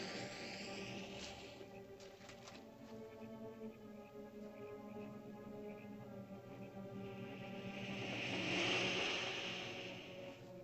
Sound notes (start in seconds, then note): 1.9 frogs croaking; 1.9 ominous music; 7.6 lizard makes hissing sound